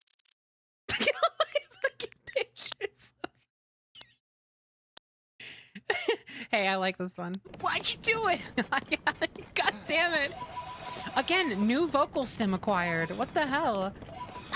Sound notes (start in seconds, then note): 0.9 laughing